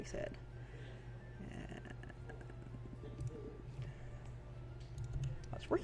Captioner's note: typing, mouse clicks, unintelligible muttering